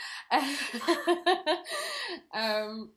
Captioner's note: laugh